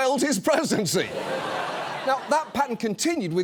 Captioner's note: audience laughs